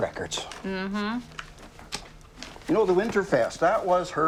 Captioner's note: Cassie hums